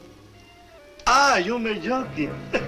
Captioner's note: speaks Spanish; chuckles